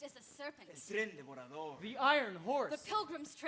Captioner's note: speaking Spanish